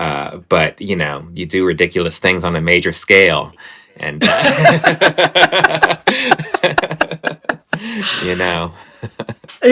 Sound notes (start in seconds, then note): 4.2 laughter